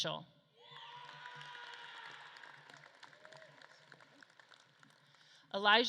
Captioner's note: audience claps and cheers